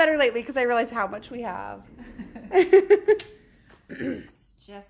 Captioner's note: laughs